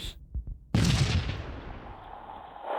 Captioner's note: explosion